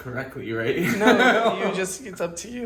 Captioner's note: laughing